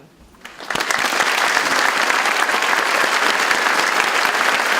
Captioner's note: audience applauds